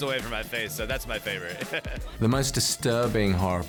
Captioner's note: chuckles